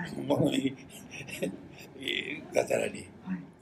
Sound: foreign language

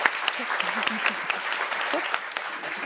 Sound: applause

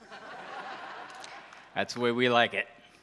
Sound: audience laughs

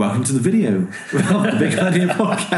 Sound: laughing

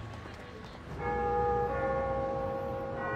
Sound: church bell tolling

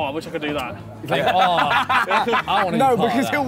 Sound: laughing

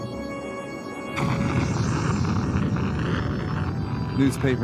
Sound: explosion booms

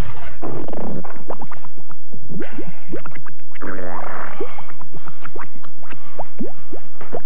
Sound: gurgling sounds

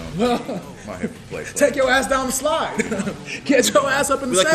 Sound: laugh

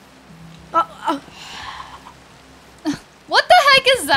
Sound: sighing

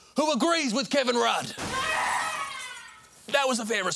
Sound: glass shatters, screaming

